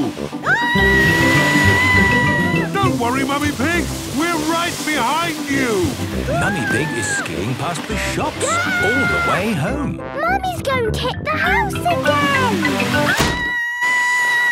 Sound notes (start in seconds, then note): 0.4 screaming; 13.0 Mummy Pig screaming